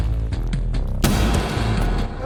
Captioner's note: gunfire